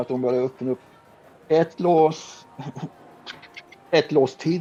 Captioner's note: making unlocking sound